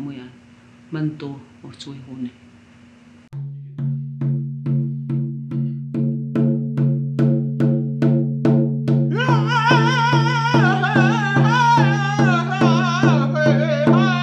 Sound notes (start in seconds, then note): 4.4 drum beating; 9.1 vocalizing